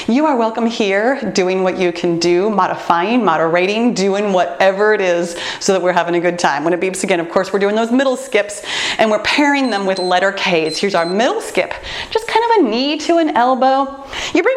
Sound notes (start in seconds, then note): 9.3 timer beeps